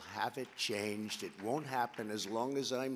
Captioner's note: applause